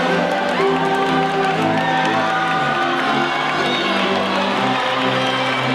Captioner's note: audience cheering and applauding